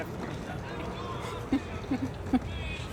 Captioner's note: laughs